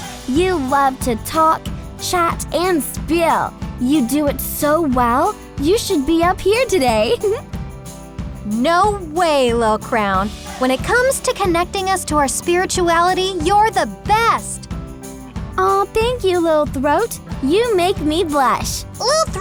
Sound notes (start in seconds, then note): 7.0 laughs